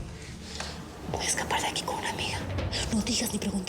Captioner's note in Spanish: susurra